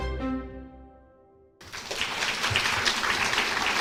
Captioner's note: applause